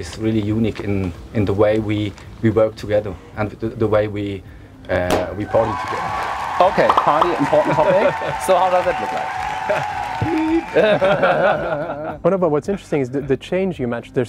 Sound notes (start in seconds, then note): 5.0 champagne cork pops; 5.4 cheers; 10.3 laughter